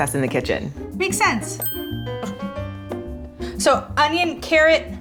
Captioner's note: chiming